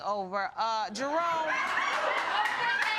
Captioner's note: audience laughing